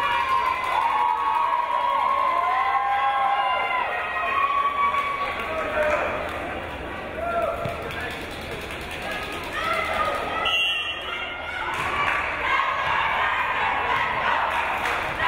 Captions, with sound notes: - [Crowd] Let's go Tigers, let's go Tigers! Let's go Tigers, let's go!